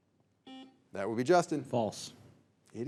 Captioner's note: signal beeps